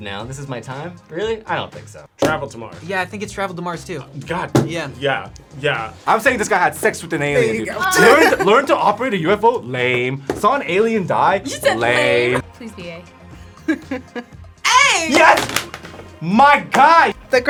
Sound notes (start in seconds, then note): 11.4 React laughs